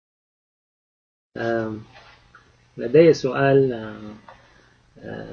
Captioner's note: speaking Arabic